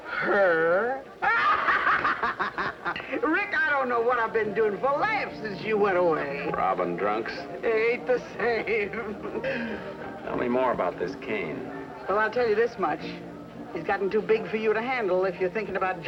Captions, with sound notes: >> HER?! [ CACKLES ] RICK, I DON'T KNOW WHAT I'VE BEEN DOING FOR LAUGHS SINCE YOU WENT AWAY. >> ROBBING DRUNKS. >> [ Laughing ] AIN'T THE SAME. >> TELL ME MORE ABOUT THIS CAIN. >> WELL, I'LL TELL YOU THIS MUCH. HE'S GOTTEN TOO BIG FOR YOU TO HANDLE IF YOU'RE THINKING ABOUT